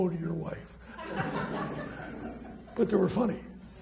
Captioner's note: laughs